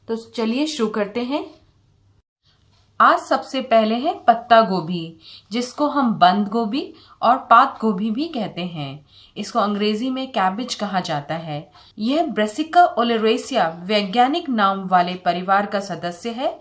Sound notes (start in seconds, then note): 10.7 Hindi